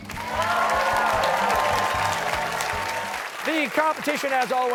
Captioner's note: cheers and applause